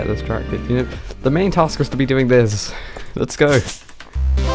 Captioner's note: sighs